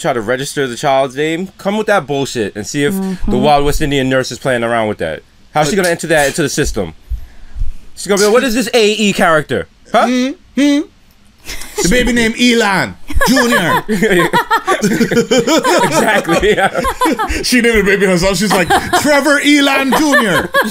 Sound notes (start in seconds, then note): 13.1 laughter